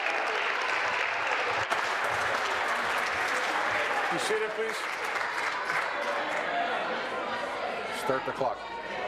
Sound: applause

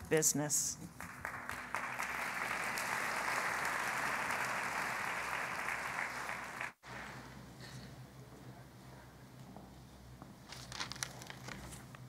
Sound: applause

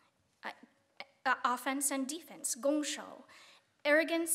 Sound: speaking Chinese

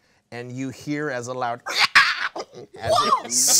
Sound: screeching

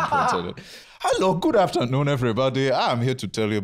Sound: Nigerian accent

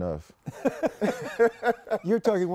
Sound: laughter

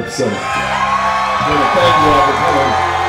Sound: audience cheering wildly

